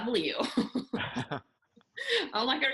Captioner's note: both laugh